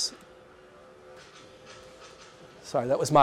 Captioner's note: machines whirring